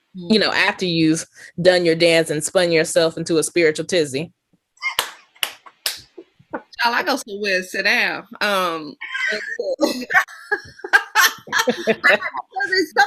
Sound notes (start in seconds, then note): 4.9 claps and laughs; 9.8 laughter